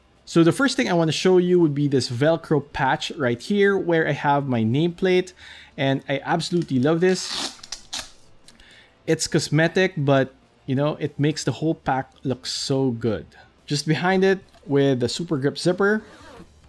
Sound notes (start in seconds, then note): 7.1 velcro tearing; 15.7 zipper zips